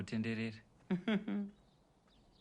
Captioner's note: chuckles